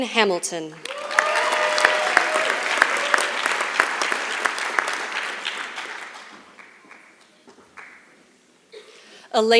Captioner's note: applause